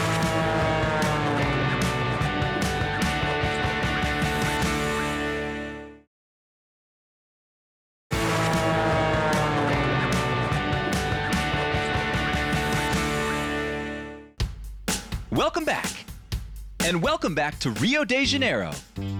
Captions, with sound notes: (upbeat music) (airplane whizzing) (upbeat music) (airplane whizzing) Welcome back! And welcome back to Rio de Janeiro.